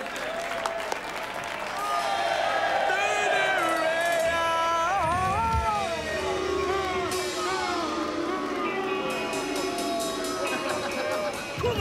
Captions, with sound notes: [shouting] [booing] [laughs] Come on, then!